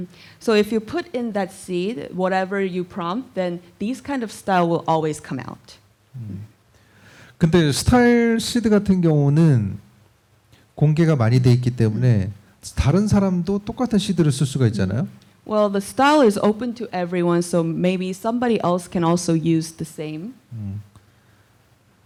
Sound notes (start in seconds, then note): 7.5 speaking korean